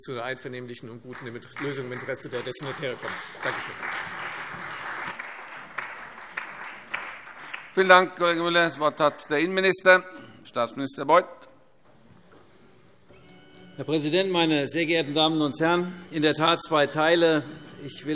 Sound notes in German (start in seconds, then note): 4.6 Beifall Freie Demokraten, vereinzelt SPD und DIE LINKE